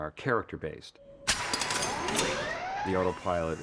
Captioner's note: whirring